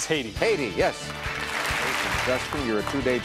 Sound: audience applauding

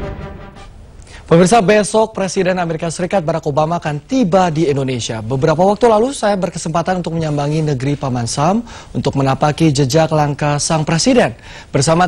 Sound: non-english speech

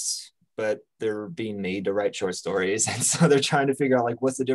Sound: chuckles

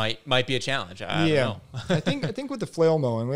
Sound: laughs

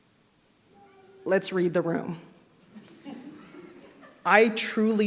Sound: scattered sniggers ring

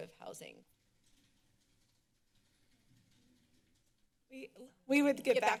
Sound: silence

